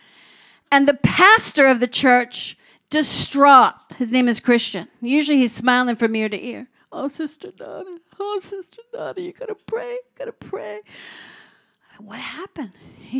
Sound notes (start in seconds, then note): none